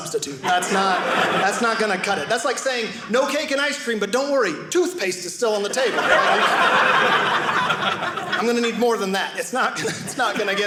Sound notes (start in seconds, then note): 5.7 audience laughing